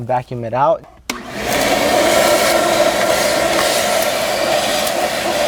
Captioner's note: vacuum humming